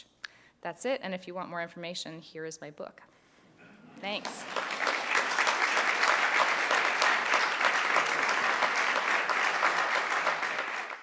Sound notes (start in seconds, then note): 4.0 applause